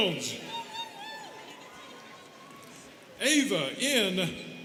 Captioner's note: students cheering